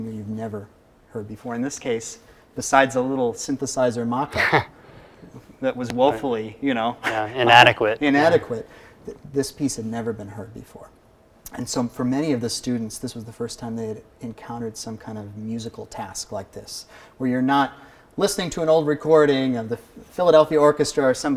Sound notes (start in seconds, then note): 4.2 chuckling